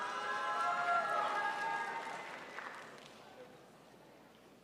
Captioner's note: crowd applauds